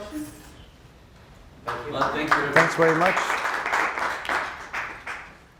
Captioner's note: applause